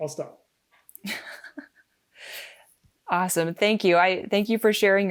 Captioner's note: laughing